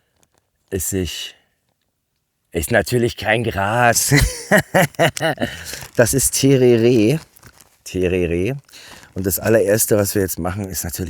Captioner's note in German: gelächter